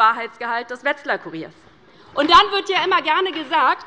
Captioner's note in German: Beifall bei Abgeordneten der LINKEN